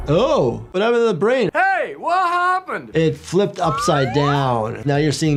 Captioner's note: none